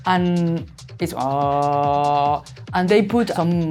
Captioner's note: hums